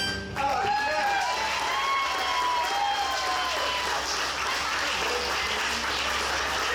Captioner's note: audience applauds; audience cheers